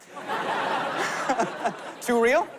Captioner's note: laughter